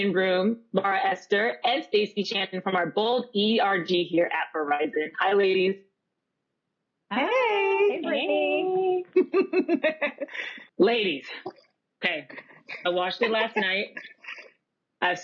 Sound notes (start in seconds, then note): 6.7 laughter